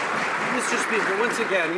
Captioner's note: some Applause